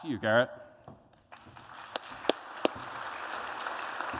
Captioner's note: applause